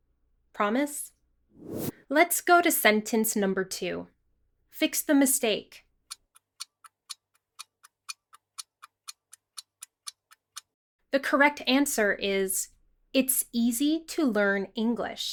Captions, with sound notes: Promise? Let's go to sentence number two. Fix the mistake. [clock ticking] The correct answer is, ...